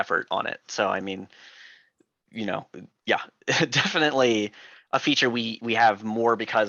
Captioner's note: laughing